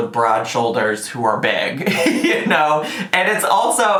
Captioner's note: laughs